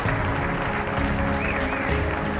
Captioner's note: applause